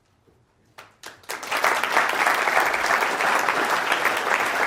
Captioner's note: audience applause